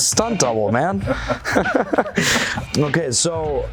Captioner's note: laughing